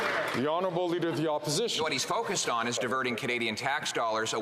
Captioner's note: some Applause